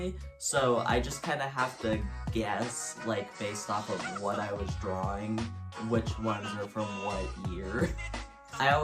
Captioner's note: laughs